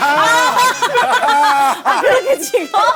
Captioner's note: just laughs